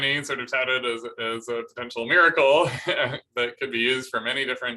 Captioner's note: laughter